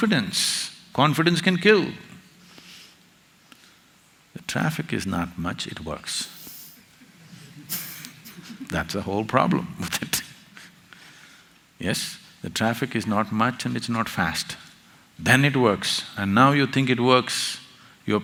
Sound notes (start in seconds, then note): 6.9 laughter; 10.9 laughs